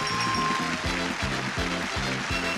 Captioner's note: audience clapping; upbeat music